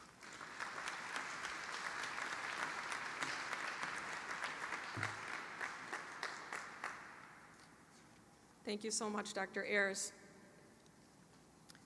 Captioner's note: applause